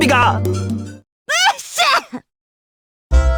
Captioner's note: sneeze